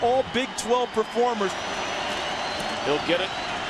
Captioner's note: crowd cheering